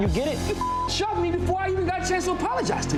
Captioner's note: beep